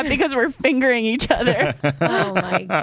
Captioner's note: laughs